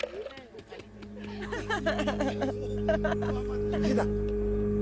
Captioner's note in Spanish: Risas